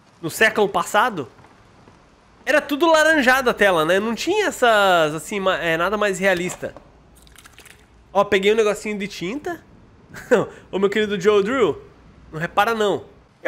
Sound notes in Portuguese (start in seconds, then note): 10.1 risos